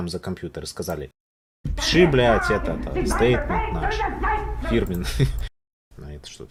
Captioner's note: sound of a calm german chat